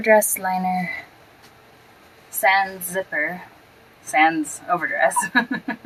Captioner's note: chuckle